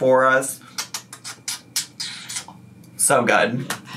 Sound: lips smack

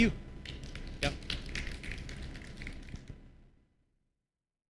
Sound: applause

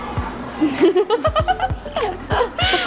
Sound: laughing

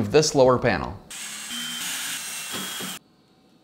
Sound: drilling

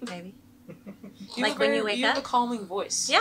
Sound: laughing off camera

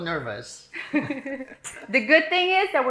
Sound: laughing

